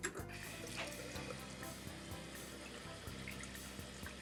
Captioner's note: water splashing